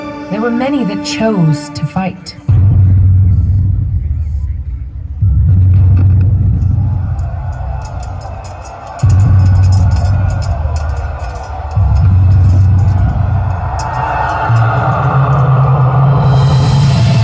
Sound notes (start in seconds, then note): 2.6 thundering booms; 7.4 battle commotion; 7.4 thundering booms; 13.6 battle commotion echoes